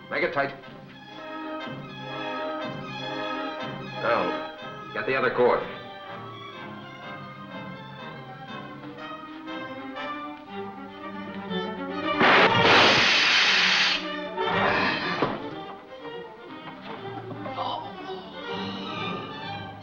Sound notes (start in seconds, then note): 12.2 gun fires; 14.5 McCroig gasps